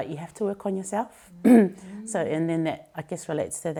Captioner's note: clears throat